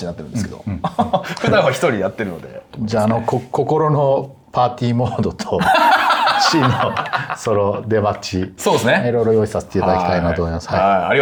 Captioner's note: laughs